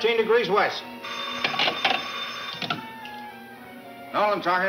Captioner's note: phone ringing